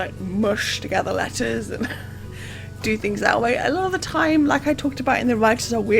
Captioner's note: laughs